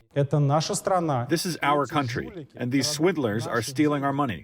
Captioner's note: through translator